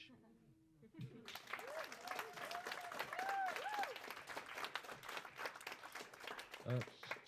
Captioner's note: applause